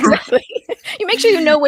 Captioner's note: laughing